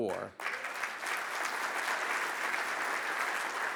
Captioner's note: audience applauds